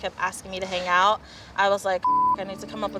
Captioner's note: beeping